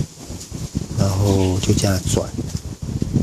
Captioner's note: wind